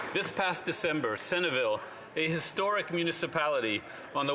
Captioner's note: some Applause